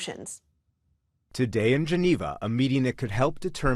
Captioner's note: voice-over